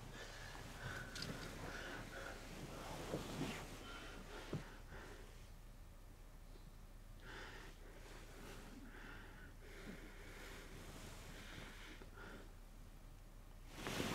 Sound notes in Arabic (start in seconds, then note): none